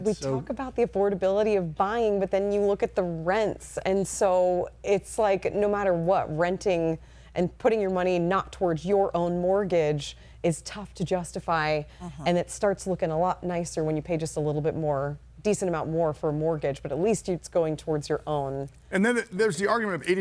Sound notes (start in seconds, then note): none